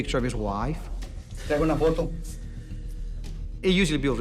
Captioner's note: speaking Spanish